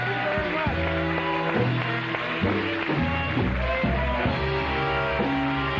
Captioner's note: music and fanfare; cheers and applause; music and fanfare